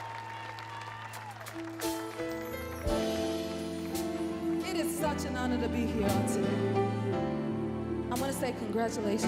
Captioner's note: applause